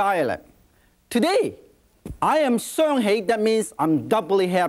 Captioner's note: in foreign language